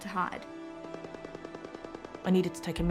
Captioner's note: distant gun fires rapidly